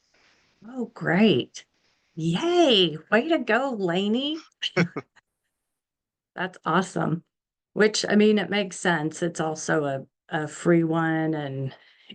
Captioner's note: giggles